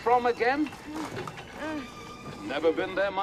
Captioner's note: Lucy Groans